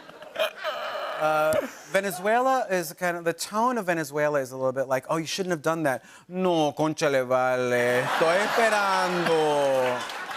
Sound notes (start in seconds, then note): 5.9 speaking Spanish; 7.8 laughter and applause